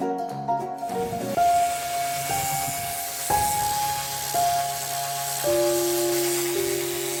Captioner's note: somber music; sander whirring